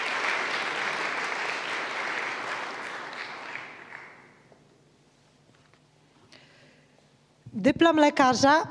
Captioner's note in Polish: oklaski